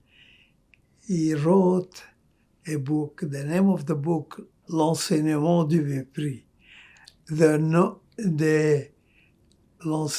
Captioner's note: french